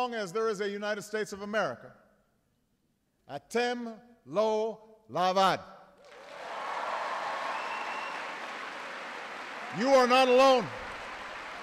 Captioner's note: applause